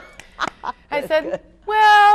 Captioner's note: laughing